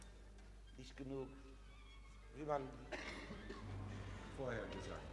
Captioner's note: speaking foreign language